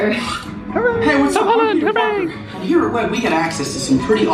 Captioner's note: mutters